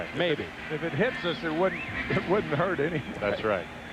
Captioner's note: laughter